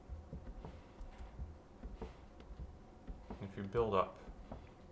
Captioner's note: pedal gently whooshing